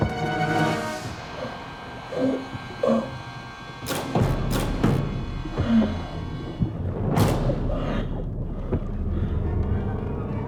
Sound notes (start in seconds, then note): 1.0 muffled grunts